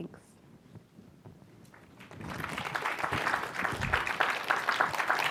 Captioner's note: applause